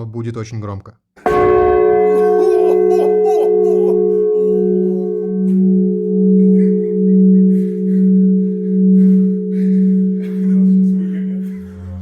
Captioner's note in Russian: звук колокола